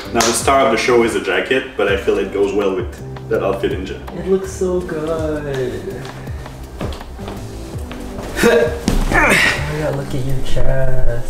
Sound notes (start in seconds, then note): 0.0 clapping; 9.0 grunting